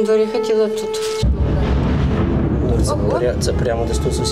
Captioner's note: explosion sound